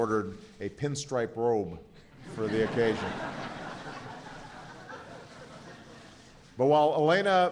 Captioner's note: laughter